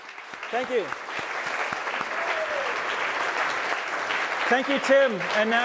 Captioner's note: applause